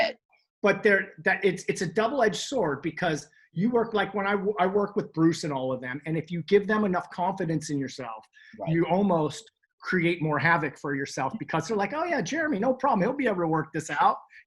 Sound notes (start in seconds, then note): none